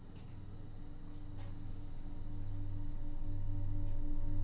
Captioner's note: low humming